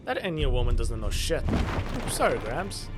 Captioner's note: a pile of books shatter